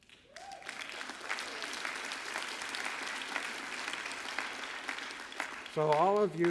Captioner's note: applause